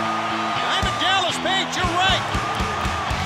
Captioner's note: crowd cheering